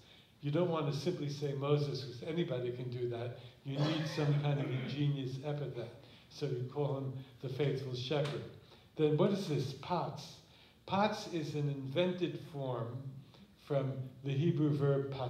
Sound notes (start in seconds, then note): 9.7 non-english